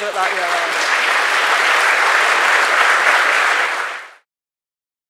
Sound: applause

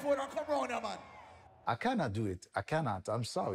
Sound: imitates eazi's accent

